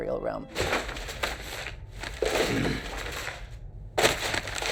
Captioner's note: crinkling